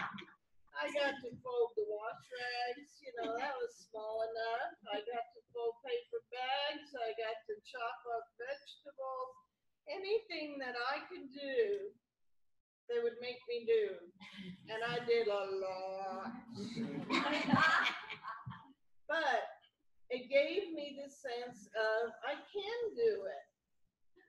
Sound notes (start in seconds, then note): 0.0 laughter; 16.5 laughter